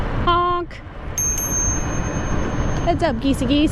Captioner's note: bell ringing